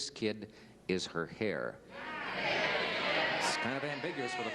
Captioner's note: crowd chatter